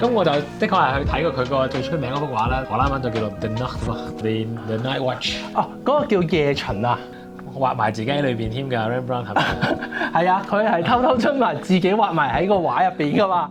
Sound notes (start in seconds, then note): 9.3 laughter